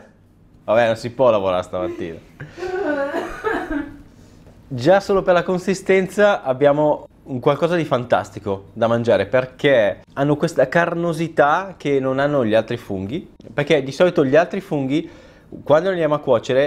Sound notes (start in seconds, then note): 2.4 still caughing heavily